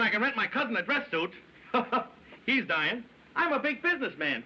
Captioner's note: chuckles